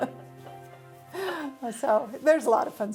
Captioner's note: laughs